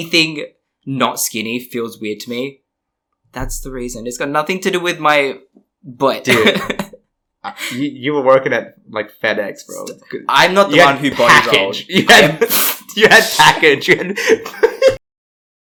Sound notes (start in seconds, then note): 6.3 laughs; 14.9 laughs